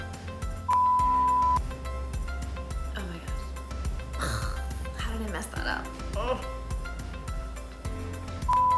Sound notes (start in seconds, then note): 0.7 beeping; 4.1 exhaling; 6.2 groaning; 8.5 beeping